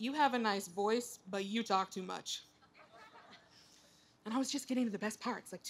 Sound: laughter

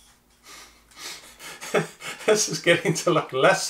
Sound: laughs

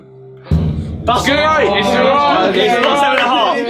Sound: all chattering

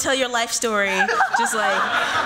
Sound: laughter

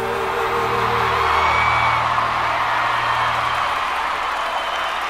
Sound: applause

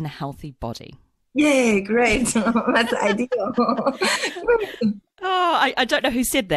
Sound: laughs

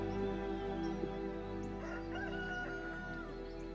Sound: rooster crowing

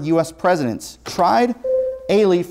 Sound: buzzer sounds

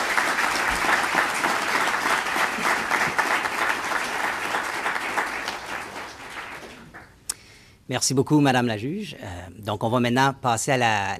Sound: applause

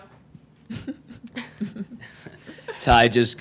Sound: laughing

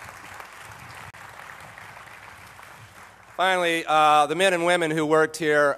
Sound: applause

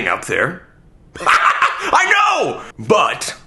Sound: laughs

